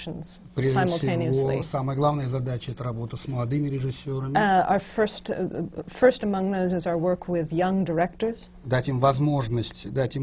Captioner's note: foreign language not transcribed; foreign language not transcribed